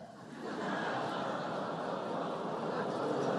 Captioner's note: laughter